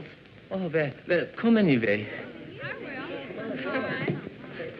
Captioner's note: chatter